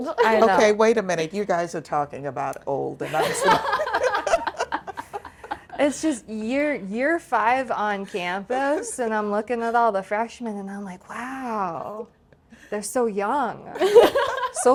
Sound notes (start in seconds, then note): 3.0 group laughing